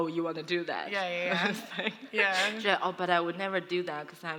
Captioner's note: laughs